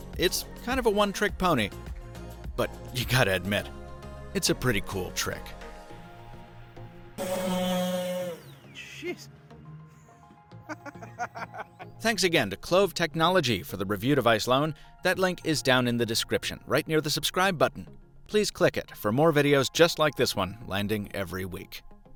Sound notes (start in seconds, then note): 7.2 boat engine; 10.6 laughter